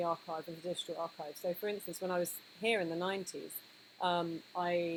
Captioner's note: none